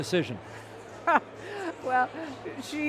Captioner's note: laughing